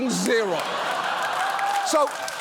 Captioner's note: audience laughing, applauding